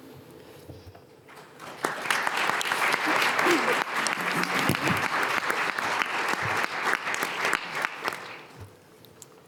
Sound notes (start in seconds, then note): 1.3 attendees applauding